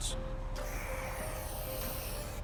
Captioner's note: spray paint can hissing